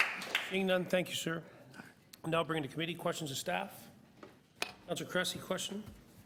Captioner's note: applause